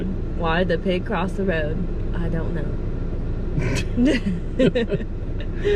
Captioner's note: laughing